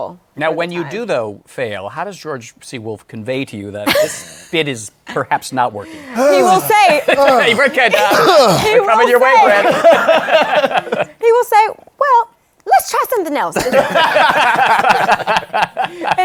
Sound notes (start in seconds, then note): 5.8 sighs dramatically; 9.3 laughter; 13.5 laughter